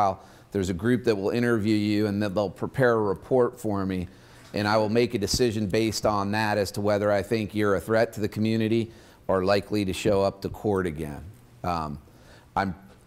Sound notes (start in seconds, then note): none